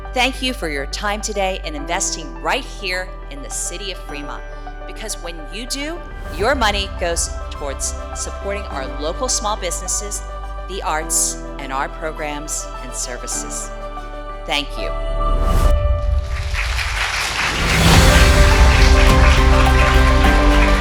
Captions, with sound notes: Thank you for your time today and investing right here in the City of Fremont. Because when you do, your money goes toward supporting our local small businesses, the arts, and our programs and services. Thank you. (lively music) (audience clapping)